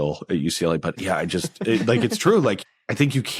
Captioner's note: hosts laugh